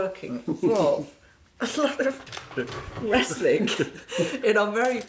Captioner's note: both chuckling